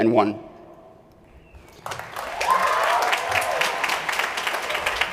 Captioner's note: applause